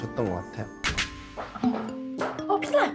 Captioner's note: restroom sound effect